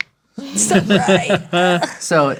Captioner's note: laughing